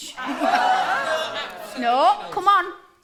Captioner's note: jeers of disapproval